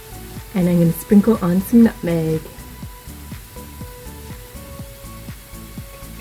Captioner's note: pepper mill grinding